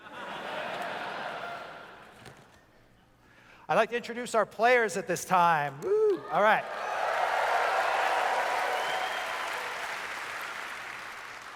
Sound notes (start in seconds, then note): 0.0 laughter; 5.9 audience cheers